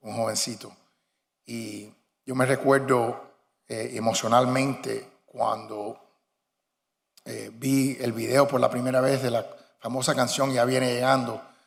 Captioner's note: speaking spanish